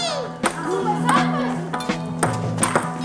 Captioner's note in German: Spielerische Aufschreie